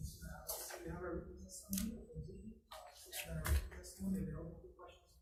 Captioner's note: faintly speaking